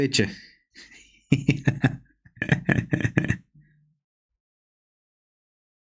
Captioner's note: laughter